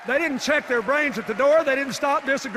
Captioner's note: applause and cheers